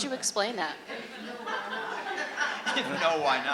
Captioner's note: laughter